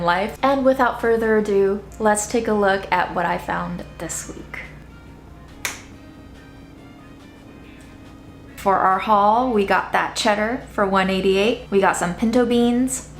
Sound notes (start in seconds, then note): 5.6 finger snapping; 6.5 classical music